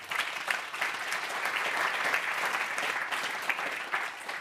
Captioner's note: applause